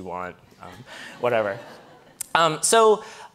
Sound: audience laughing

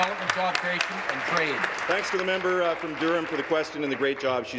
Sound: applause

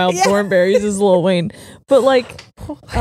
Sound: both laughing

